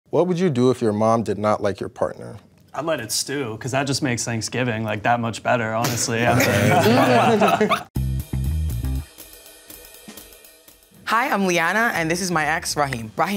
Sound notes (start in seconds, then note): 5.9 group chuckles; 7.9 upbeat jazz music